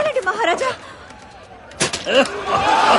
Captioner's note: women laughing